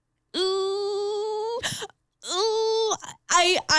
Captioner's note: squealing